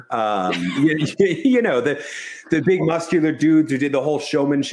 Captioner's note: chuckles